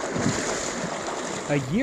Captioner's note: water lapping